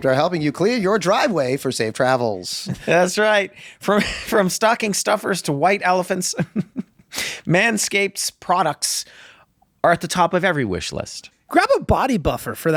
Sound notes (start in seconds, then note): 6.3 laughs